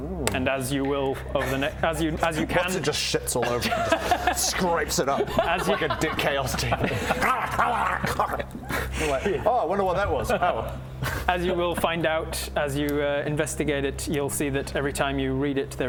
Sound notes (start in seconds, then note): 7.1 nom nom nom